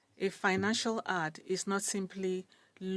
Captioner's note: speaking French